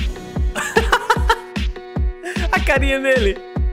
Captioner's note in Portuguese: Risos